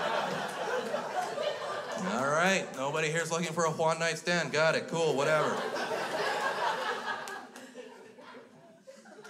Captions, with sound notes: All right, nobody here's looking for a Juan night stand. Got it. Cool. Whatever. (crowd laughs)